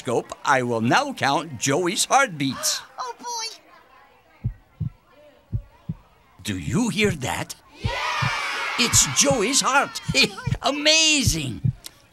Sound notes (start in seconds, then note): 3.0 gasp; 4.0 heart thumping